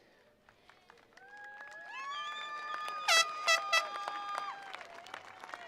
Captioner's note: attendees applauding